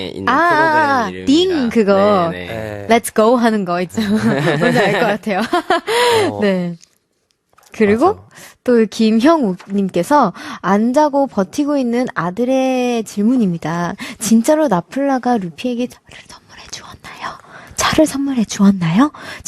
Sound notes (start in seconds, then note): 13.0 whispers